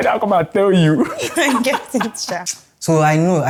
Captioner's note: laughs